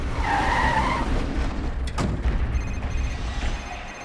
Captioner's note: tires screeching; phone ringing